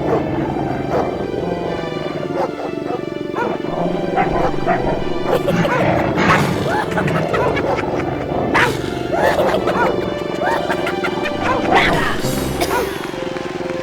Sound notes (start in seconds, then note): 1.5 gruñidos de los lobos; 6.5 hienas riendo